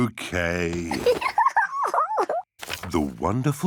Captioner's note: giggles